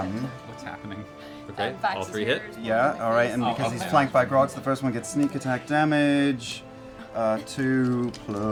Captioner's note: none